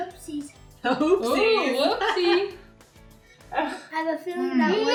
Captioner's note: laughs